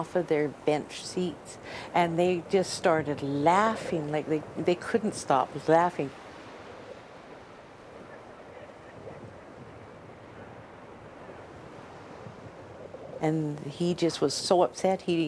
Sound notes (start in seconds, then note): 4.6 water whooshing